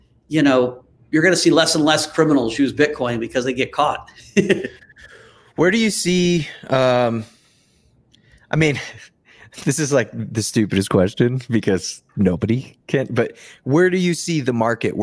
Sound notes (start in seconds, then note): 4.1 laughs; 8.7 chuckles